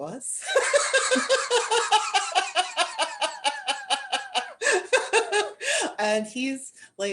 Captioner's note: laughter